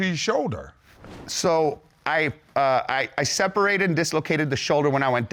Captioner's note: stutters